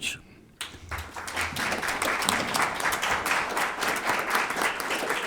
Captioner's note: audience applauding